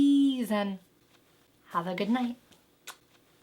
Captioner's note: kisses